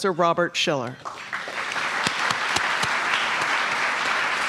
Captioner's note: applause